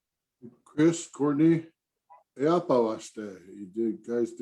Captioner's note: speaks indigenous language